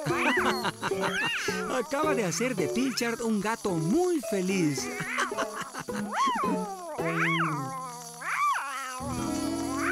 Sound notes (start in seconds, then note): 0.0 laughing; 5.2 meowing & Clicking Continues